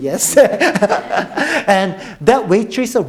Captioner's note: all laughing